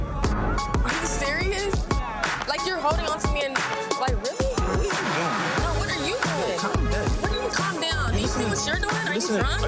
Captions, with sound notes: Are you serious? You're holding on onto me and... (overlapping chatter)